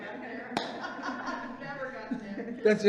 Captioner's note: all laugh